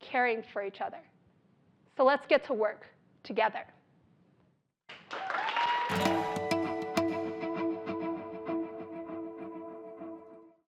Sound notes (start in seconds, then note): 4.9 applause